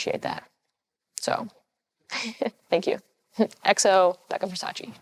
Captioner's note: chuckles